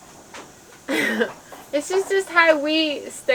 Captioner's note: chuckling